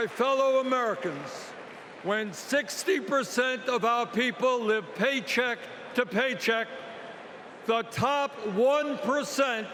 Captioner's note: cheering